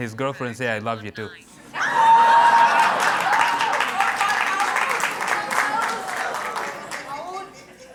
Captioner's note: cheers and Applause